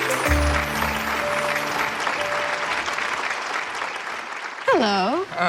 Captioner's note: audience clapping